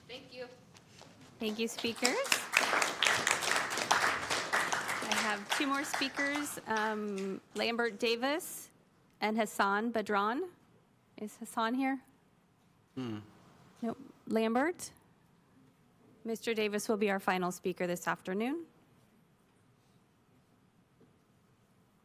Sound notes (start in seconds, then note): 8.1 applause